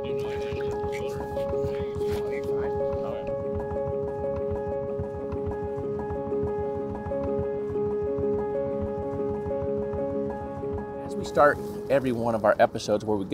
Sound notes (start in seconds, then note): 0.0 water bubbling; 3.8 gentle music; 4.6 boat engine revving